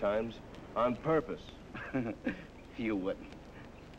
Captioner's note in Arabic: ضحك